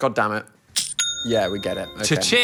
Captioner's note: cash register dings